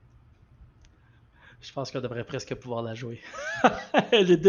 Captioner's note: laugh